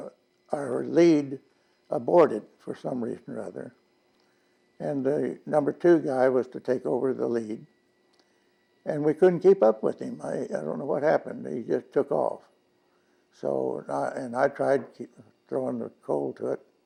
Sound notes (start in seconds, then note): none